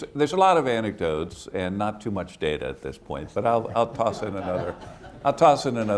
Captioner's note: laughter